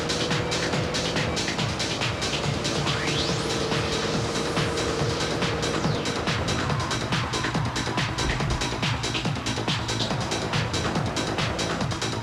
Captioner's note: engine revving